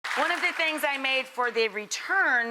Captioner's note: audience clapping